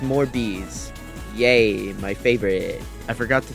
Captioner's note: sarcastically